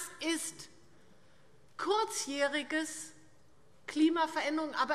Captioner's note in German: none